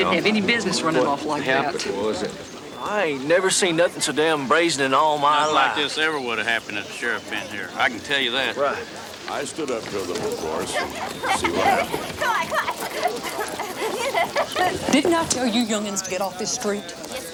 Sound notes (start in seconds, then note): 9.3 townsfolk chatter; 10.0 children giggle